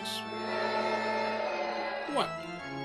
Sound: crowd booing

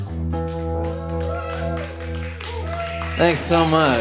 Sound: audience cheering

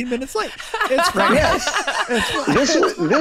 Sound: Meg and Glenn laughing

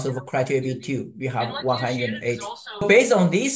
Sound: person chatters

